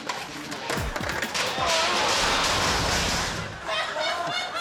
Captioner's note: metal clanking; men laughing